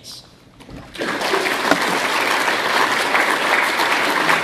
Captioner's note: applause